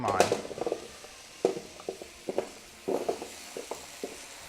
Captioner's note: sizzles